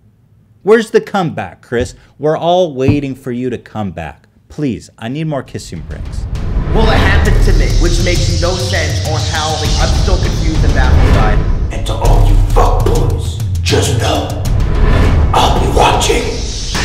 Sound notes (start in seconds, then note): 11.5 in bad Batman impression